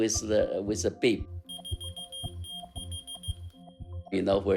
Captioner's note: soundbite of beeping